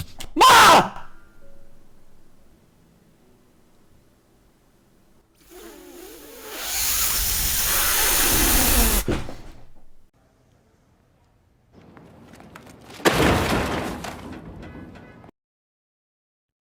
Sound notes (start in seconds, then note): 0.3 yelling; 5.4 hissing; 12.9 garbage clattering